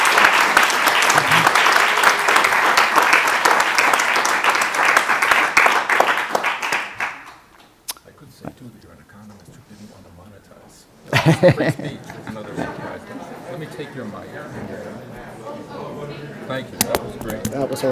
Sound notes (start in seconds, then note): 11.0 laughs; 12.8 audience chattering